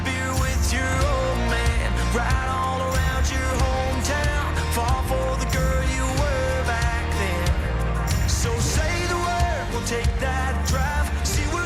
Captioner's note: cheering and Applause